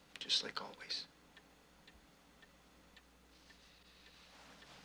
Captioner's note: clock ticking